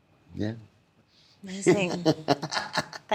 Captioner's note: laughing